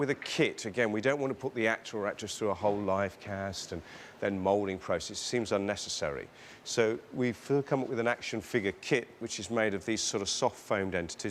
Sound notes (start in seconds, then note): none